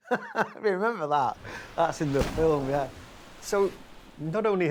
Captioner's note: laughing